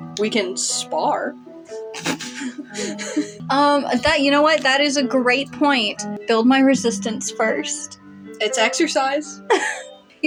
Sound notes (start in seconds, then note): 1.8 chortle; 1.8 chuckle; 9.4 giggle